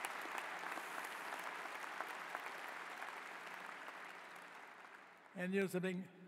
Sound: cheers and applause

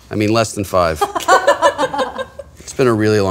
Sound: laughter

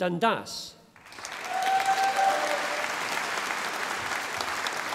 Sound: audience applauding

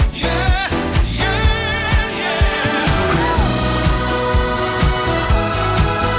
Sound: woo, woo

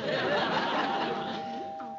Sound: doorbell rings

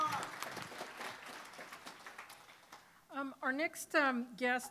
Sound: applause

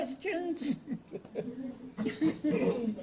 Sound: chuckles

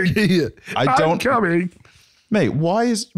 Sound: as Kermit

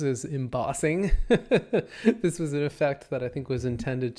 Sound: laughs

